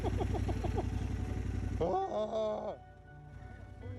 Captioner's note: nervous laughter